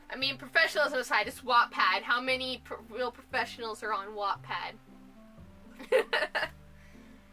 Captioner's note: laughs